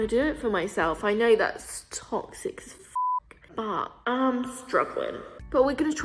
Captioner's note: beep